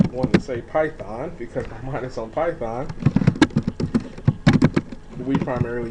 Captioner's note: typing sounds